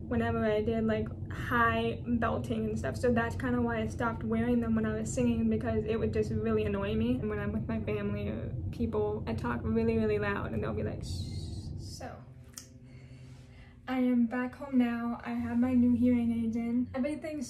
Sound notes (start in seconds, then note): none